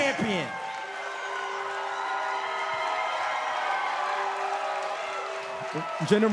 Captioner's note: crowd cheering